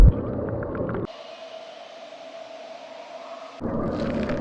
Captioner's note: birds chirping; ominous rustling